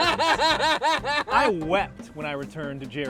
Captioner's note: all laugh